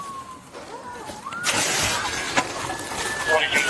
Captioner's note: sound of glass breaking